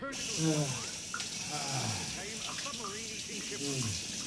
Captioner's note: man moaning within